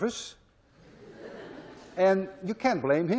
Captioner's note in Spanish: clase se ríe